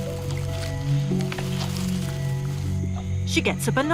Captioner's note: branches rustling